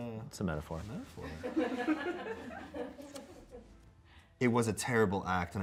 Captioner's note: crew laughs